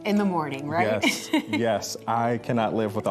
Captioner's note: laughs